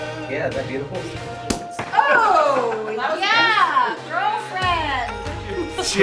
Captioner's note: cork pops